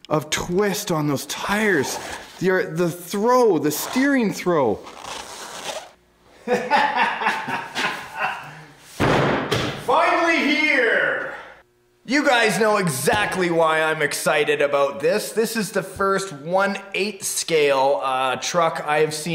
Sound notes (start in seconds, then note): 6.4 laughter